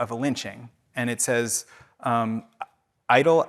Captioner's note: speaking in foreign language